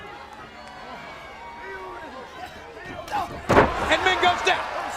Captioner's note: crowd chatter